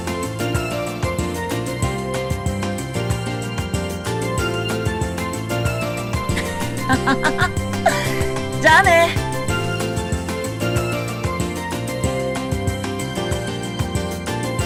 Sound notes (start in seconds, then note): 6.3 laughing